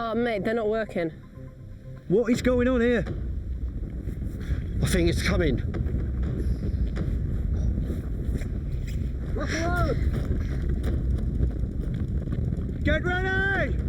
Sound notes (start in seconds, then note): 3.5 ground rumbling